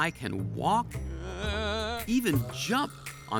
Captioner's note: groans warily